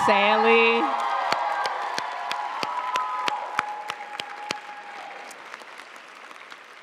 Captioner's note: audience cheering and applauding